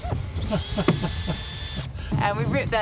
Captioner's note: laughs